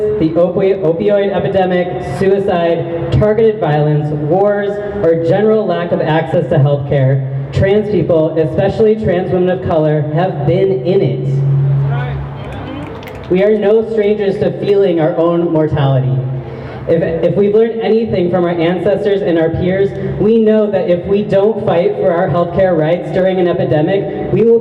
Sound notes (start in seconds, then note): 11.9 crowd member shout's "that's right!"; 11.9 snaps